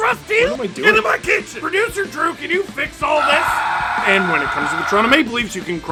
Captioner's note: screaming